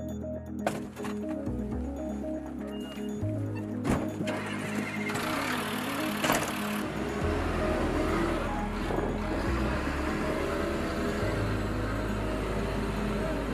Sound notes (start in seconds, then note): 2.9 truck engine starts up